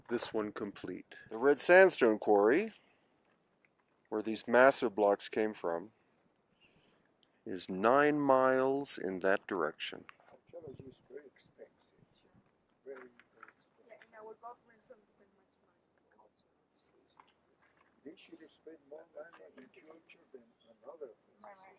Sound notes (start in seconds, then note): 16.8 speaks faintly